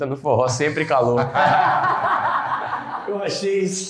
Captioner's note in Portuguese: risos